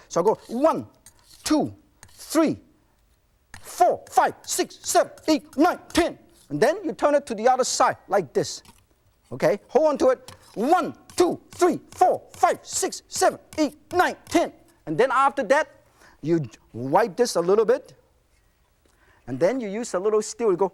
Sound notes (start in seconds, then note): 0.2 knife screeching; 10.3 knife screeching